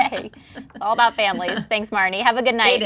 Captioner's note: laughs